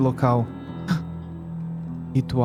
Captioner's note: gasps